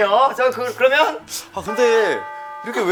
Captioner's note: laughing